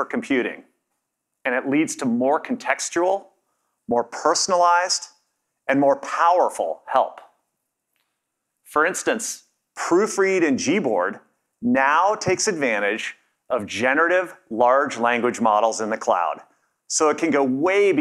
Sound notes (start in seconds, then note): none